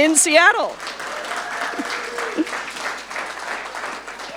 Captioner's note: audience applauding